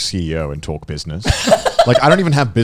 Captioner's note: laughing